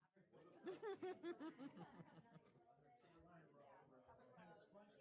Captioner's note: everyone laughs